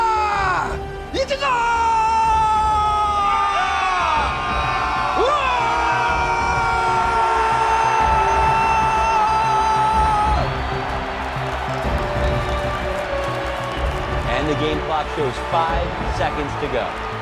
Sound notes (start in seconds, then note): 4.0 team shouting; 9.0 crowd cheering